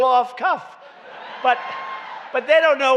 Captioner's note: laughter